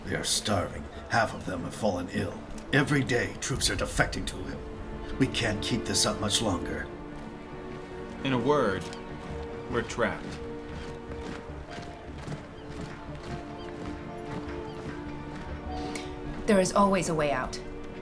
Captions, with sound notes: They are starving, half of them have fallen ill. Every day, troops are defecting to him. We can't keep this up much longer. - In a word, we're trapped. (soldiers footsteps thudding) (gentle pensive music) - There is always a way out.